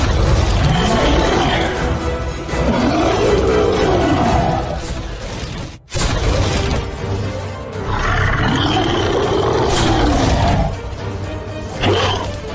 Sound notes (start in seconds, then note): 0.3 monster Roar; 5.9 cannon Fire; 6.0 monster Roar